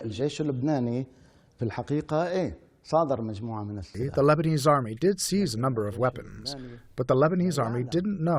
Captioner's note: through translator